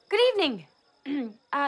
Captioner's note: clears throat